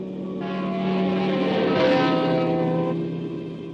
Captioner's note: horn honking